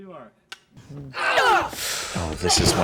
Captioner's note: beeping